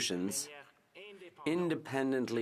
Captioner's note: speaking French